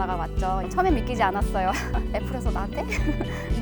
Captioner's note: laughing